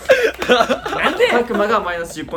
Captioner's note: in Kansai dialect